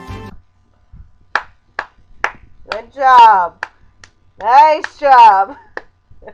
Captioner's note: sarcastic clapping